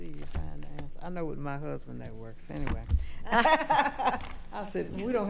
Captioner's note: laughing